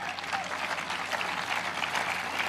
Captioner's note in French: applause